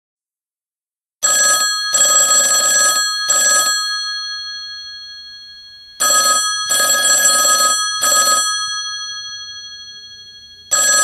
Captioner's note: telephone bell is ringing